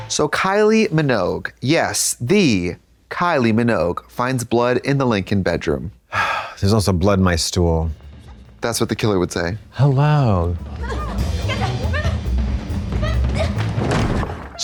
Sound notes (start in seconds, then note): 10.2 suspenseful music; 11.5 panting